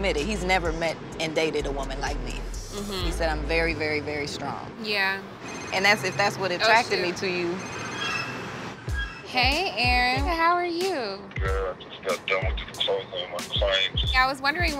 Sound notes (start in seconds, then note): 5.4 cellphone rings